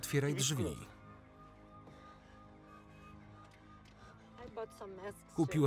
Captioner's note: sirens wail